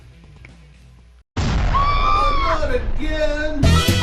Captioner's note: woman screaming